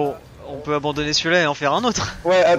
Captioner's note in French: rires